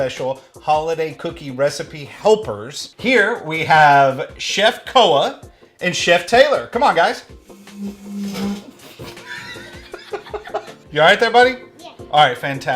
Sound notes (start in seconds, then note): 8.7 laughing